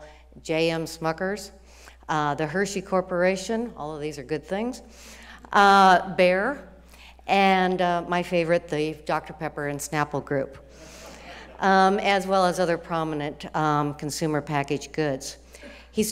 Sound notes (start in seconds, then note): 10.9 students laughing